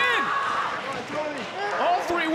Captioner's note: Mercedes yelling; official speaking faintly